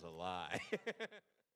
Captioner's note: laughing